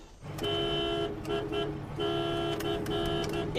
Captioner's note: car horn honks